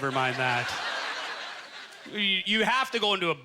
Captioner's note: audience laughter